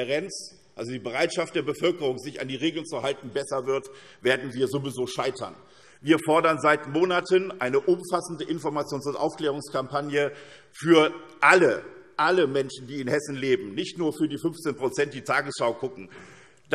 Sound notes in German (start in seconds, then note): none